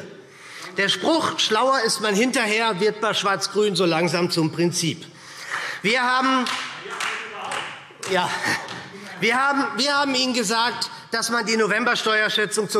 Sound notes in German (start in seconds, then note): 6.4 Vereinzelter Beifall SPD und Freie Demokraten - Zuruf